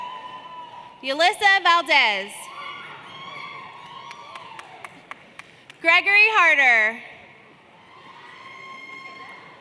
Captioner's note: applause